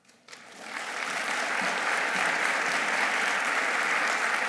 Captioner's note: audience applauding